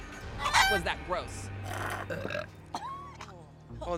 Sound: belching, coughing

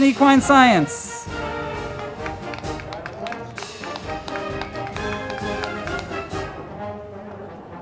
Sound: band music; crowd clapping

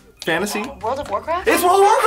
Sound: buzzer

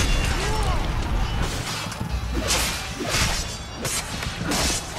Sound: fighting sounds

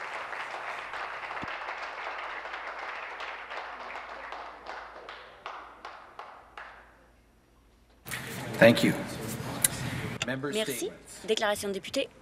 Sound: applause

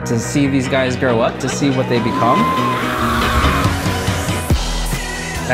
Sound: son cheers

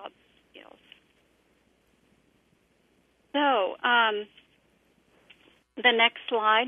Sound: pause

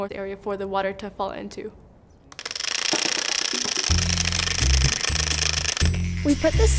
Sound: fan blades clicking

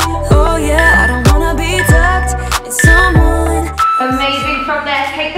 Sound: alarm beeping

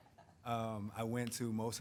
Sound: chuckling

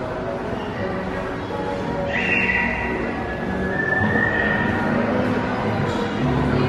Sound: people chattering

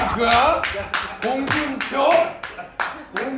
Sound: claps out of awe

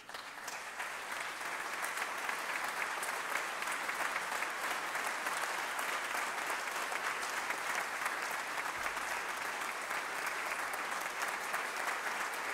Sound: applause

